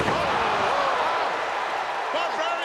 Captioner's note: audience cheering